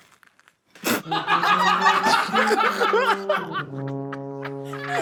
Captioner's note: all laughing